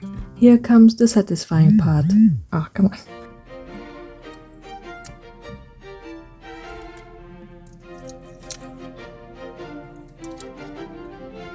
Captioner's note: phone vibrates